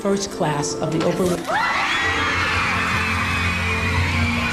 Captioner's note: screaming